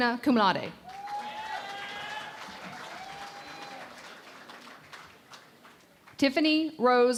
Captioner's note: cheering and Applause